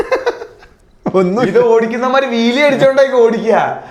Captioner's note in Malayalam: പൊട്ടിച്ചിരി